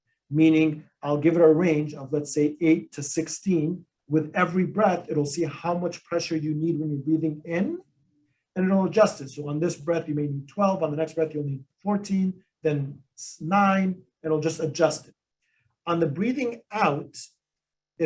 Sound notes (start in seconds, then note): none